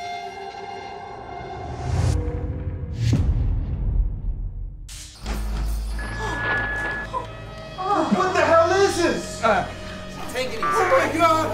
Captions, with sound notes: [ GASPS ] WHAT THE HELL IS THIS?! TAKE IT EASY. OH, MY GOD!